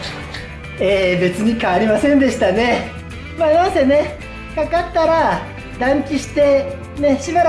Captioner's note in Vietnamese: cười